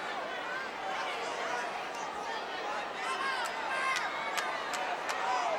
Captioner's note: audience chattering continues